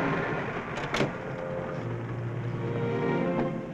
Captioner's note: brakes clicking; soft music